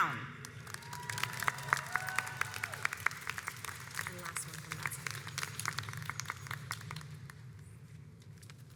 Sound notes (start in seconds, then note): 0.5 audience applauds